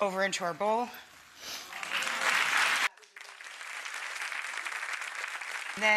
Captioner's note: audience applauding